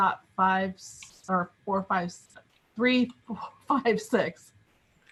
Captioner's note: chuckles